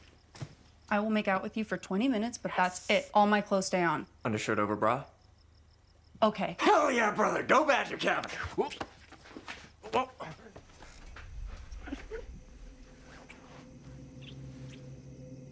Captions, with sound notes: I will make out with you for 20 minutes, but that's it. All my clothes stay. - Under shirt, over bra? - Okay? - Hell yeah, brother. Go, Badger Cabin. (grunts) (eerie music)